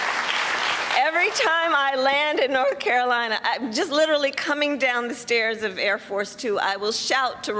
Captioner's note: cheers and applause